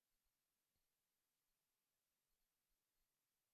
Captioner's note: none